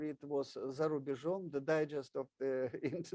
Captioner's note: speaks in foreign language